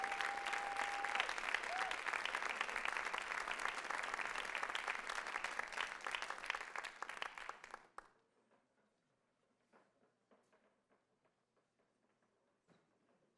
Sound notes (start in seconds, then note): 3.9 audience applauds continues